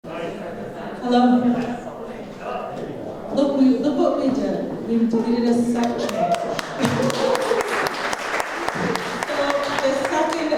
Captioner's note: applause